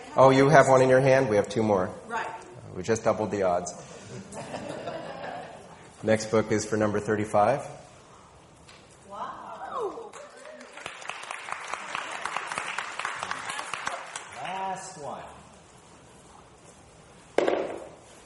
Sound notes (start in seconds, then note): 4.0 people laughing; 10.0 audience applauding